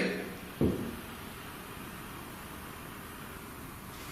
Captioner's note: thud